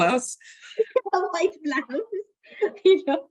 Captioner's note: both laugh